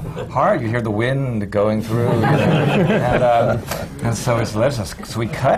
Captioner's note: laughter